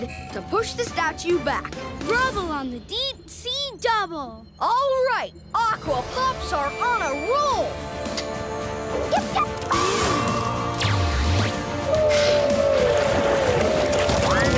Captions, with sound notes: I need you to use your hammerhead to push the statue back. Rubble on the deep sea double. All right! Aqua Pups are on a roll! [barking]